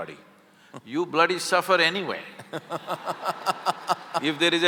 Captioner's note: Karan Johar laughs; laughter